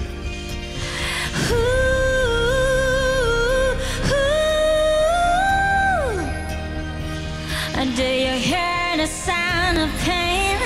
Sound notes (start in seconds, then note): 1.2 Humming